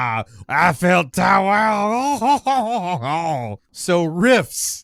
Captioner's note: chortles